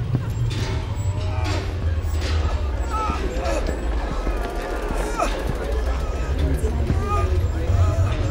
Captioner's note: boots walking; sounds of patient in pain and nurse's voice